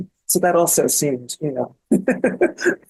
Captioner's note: laughs